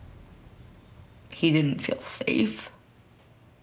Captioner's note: voice trembling